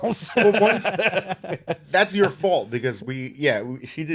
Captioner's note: laughing